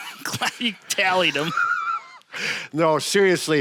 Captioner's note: laughs